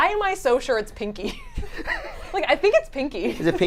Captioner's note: giggle